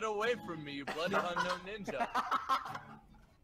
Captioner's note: laughing